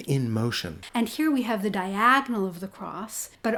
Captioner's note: voiceover